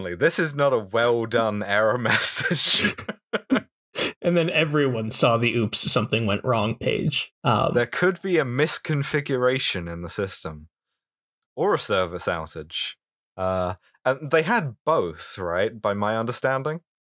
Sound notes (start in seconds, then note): 2.0 laughter